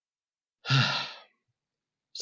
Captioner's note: sigh